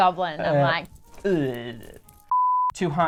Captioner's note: chains jingling